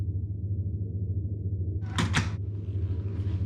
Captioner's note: door creaks shut